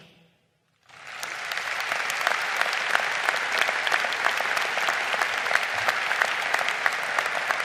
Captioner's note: crowd applauding